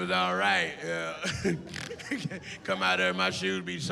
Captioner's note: laughs